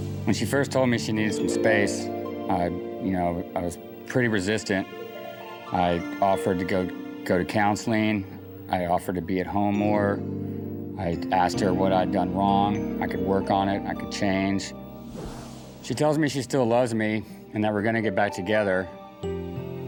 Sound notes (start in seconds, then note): none